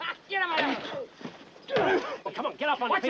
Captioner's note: groaning; laughing